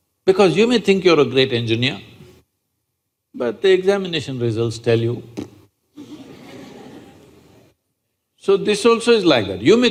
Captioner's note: laughter